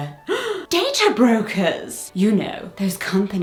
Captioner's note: gasps